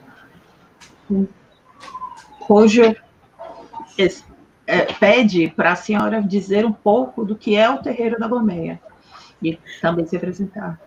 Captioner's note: speaking Portuguese